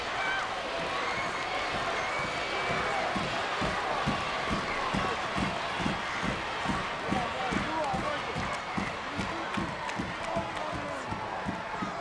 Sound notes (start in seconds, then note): 7.9 crowd stomping